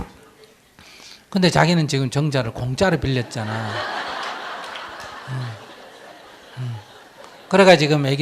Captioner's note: audience Laughter